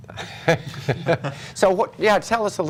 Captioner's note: laughter